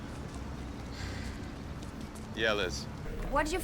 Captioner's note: sighs